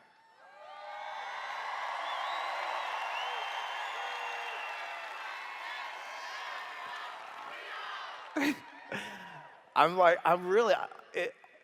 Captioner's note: cheers